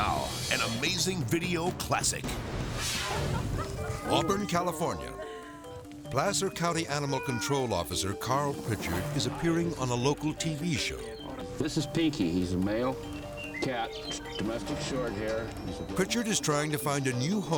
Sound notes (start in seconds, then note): 2.8 graphic swishes; 3.0 onlooker laughs